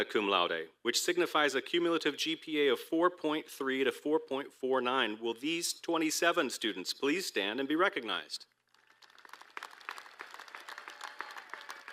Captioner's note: applause